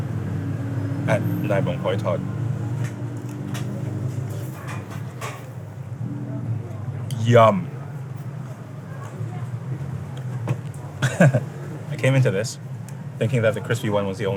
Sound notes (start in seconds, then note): 1.2 speaking foreign language; 11.0 chuckles